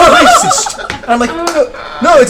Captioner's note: laughter